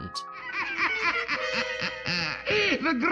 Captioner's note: laughter